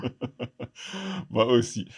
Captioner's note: laughs